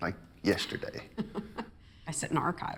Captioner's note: laughs